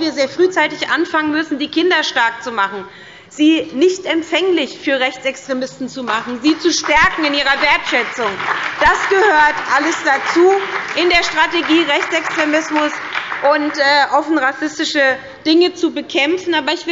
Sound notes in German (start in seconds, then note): 8.3 Beifall bei der SPD und dem BÜNDNIS 90/DIE GRÜNEN